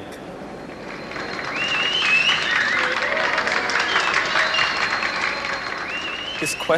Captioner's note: applause